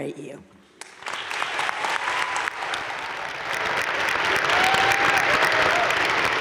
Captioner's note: audience cheering and applauding